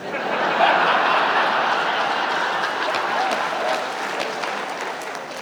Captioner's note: audience laughs, applauds